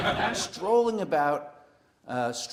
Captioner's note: laugh